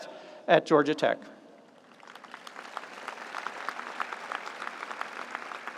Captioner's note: audience applauds